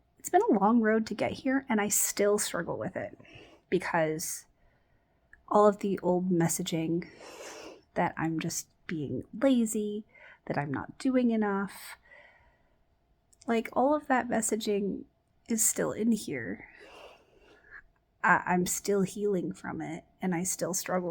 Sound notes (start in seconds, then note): none